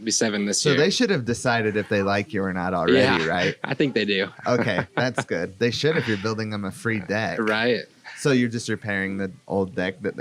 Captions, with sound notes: - Yep, be seven this year. - So they should have decided if they like you or not already, right? - Yeah, I think they do. (laughs) - Okay, that's good. They should, if you're building them a free deck. - Right? - So you're just repairing the old deck